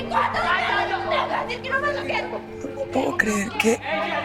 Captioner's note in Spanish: Gritos y exclamaciones